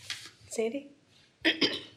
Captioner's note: clears throat